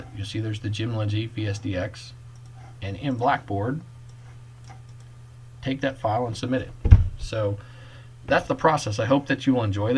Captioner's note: clicking